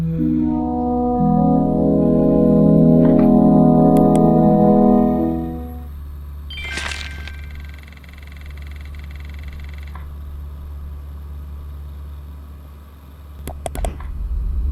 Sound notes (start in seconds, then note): 0.6 computer chimes